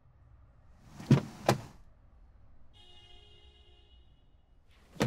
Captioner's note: car doors open